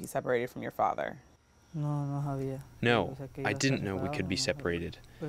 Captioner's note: through translator